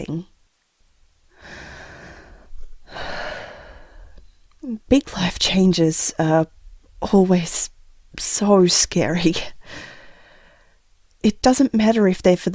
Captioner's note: sigh